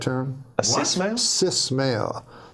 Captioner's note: man Speaking Offscreen